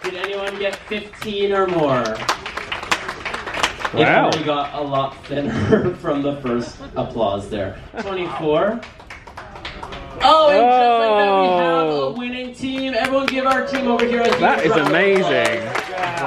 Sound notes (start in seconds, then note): 2.3 scattered applause; 9.0 one person applauding